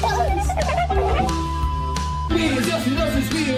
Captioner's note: eerie chittering